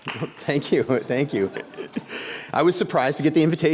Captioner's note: laughs